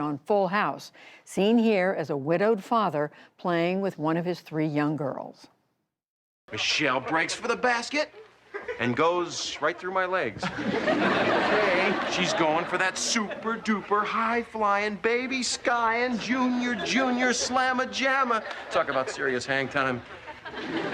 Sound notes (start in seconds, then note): 10.3 laughter; 20.7 laughter